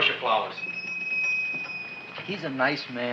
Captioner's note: shop bell chimes